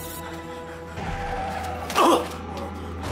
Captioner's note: vzdechy a bolestivé sténání